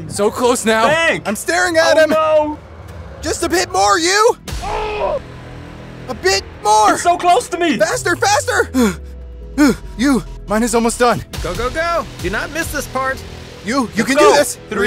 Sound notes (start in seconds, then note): 8.4 sighs